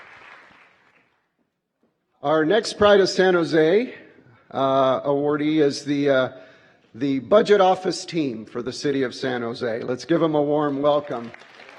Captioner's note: applause